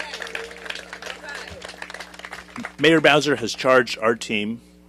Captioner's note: applause